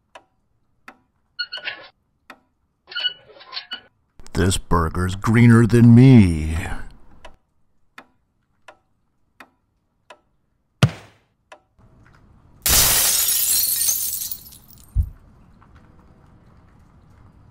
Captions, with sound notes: [wheels squeaking] This burger's greener than me! [thud] [glass breaking]